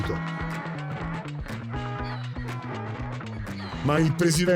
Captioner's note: loud bray continues